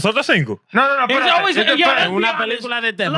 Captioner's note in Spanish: Hablando en idioma extranjero